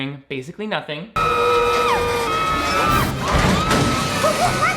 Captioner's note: both screaming